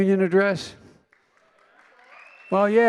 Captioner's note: applause